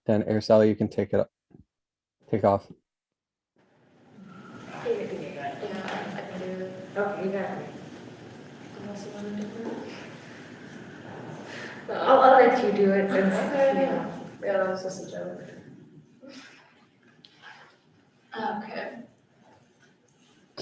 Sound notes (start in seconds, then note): 4.0 indistinct conversation